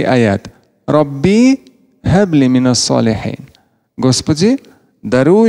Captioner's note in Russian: Говорит на арабском